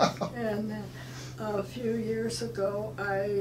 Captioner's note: laughing